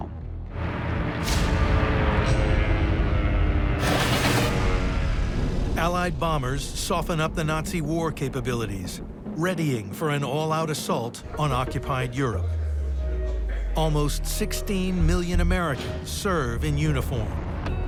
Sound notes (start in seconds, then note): 0.2 planes whirring; 3.8 gunfire